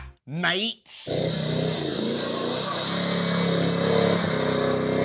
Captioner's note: engine whirring